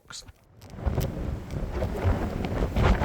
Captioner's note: storm force winds hitting microphone